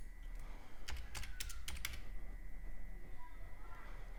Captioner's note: typing